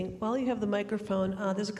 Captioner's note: none